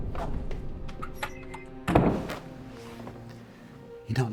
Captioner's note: door opens and slams shut